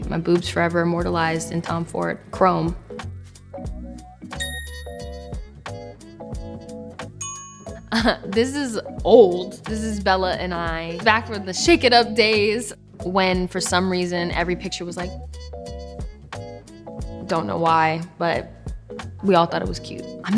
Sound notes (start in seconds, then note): 4.4 upbeat music; 4.4 phone dinging